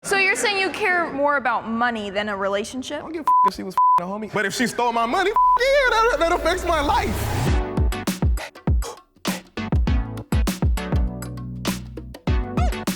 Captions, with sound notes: - So you're saying you care more about money than a relationship? - Don't get (beeping) a homie, but if she stole my money, (beeping) yeah, that'll fix my life. (upbeat music)